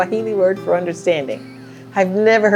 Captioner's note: quietly laughs